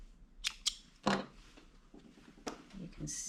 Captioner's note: scissors snipping